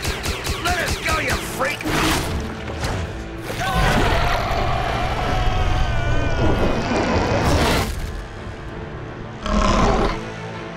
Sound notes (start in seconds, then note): 3.5 screaming; 9.4 belching